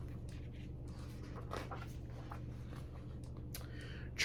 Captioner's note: page turns